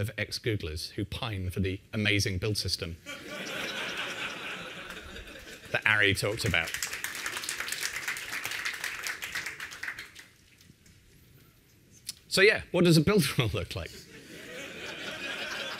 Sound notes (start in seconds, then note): 6.2 applause; 14.0 laughter